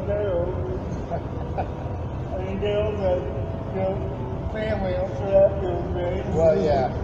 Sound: chuckles

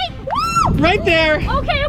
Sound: excited scream

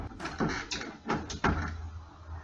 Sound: door opens

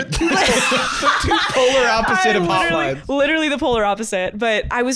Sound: laughing

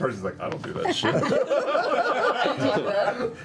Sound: laughter

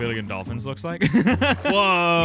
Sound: laughs

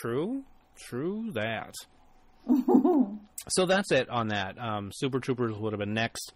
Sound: laughs

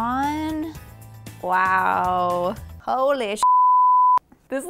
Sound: beeps

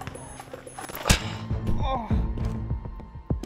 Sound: groaning

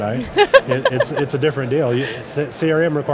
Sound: laughs

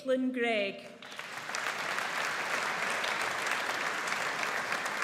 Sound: audience applauds

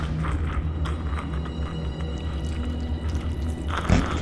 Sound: wet Goo Noises

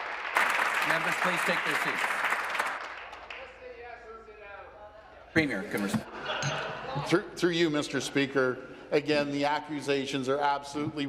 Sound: some Applause

